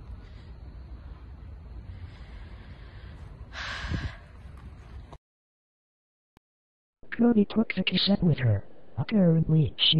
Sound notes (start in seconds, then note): 3.5 sigh x2